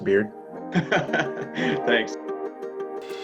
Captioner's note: laughs